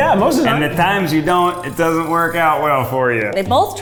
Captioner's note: none